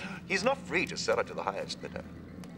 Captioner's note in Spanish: none